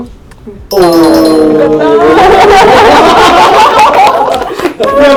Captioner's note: impressed Japanese sounds